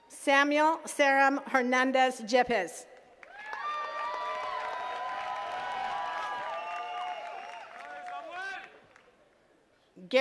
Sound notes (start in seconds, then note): 3.1 attendees cheering and clapping